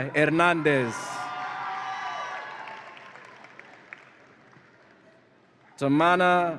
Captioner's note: audience applauds and cheers